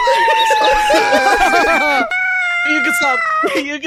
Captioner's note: all groaning and laughing; screaming